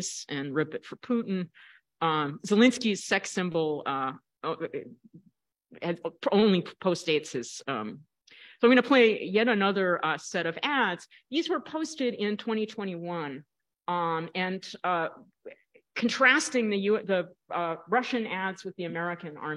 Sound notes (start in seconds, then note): none